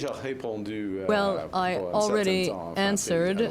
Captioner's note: speaking french